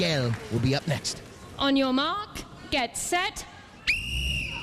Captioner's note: whistle blows